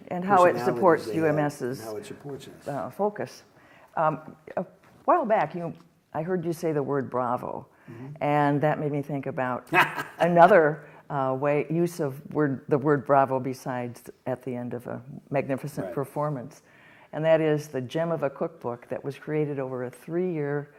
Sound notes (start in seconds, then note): 9.7 laughs